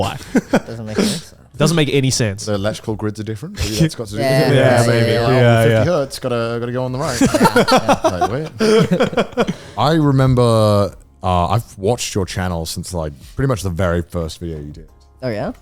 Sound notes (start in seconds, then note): 6.9 all laughing